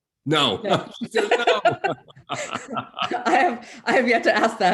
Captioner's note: laughing